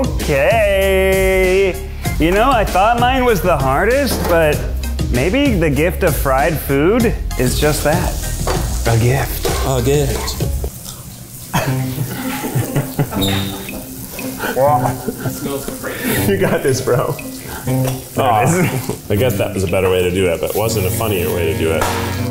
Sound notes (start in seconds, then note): 11.5 laughs